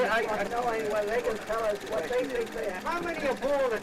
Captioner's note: overlapping chattering